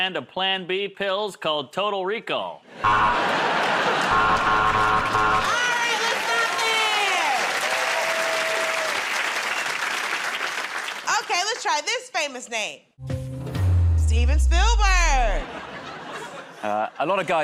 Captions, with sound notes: I've got a brand of Plan B pills called 'Total Recall". [ Buzzer ] -Alright, let's stop there. [ Cheers and applause ] Okay, let's try this famous name.